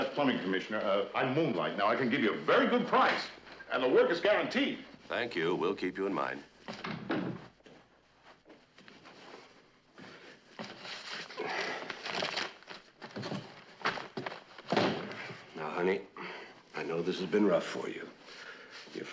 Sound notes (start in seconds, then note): 6.7 kapı kapanması